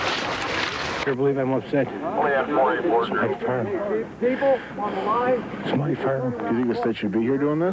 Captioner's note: background voices talking